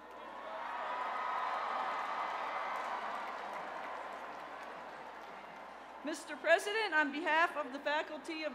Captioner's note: cheers and applause